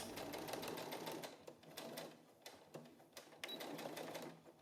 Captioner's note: sewing machine whirring